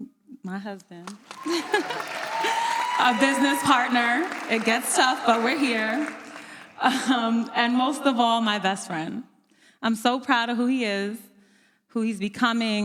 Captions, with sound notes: My husband. (audience applauds) A business partner. It gets tough, but we're here. And most of all, my best friend. I'm so proud of who he is, who he's becoming,